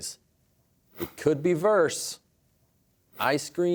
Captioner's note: none